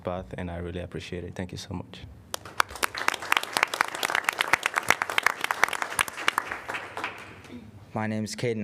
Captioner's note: applause